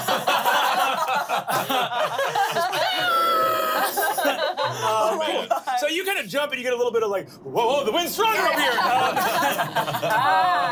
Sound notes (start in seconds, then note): 0.0 everyone laughs; 2.8 shrieks